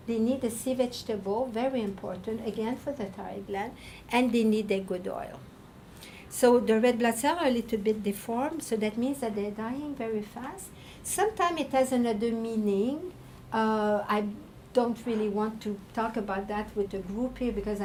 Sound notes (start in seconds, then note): none